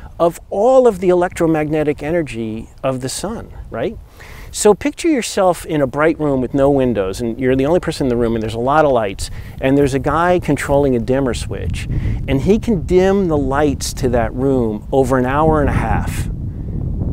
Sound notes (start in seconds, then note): none